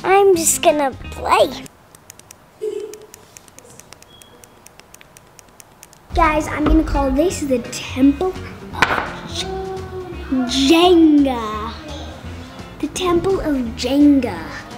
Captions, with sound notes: I'm just gonna play. (buttons clicking) - Guys, I'm gonna call this the temple of Jenga. The temple of Jenga.